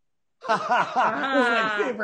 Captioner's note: laughing loud